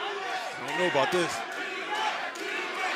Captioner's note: fans chanting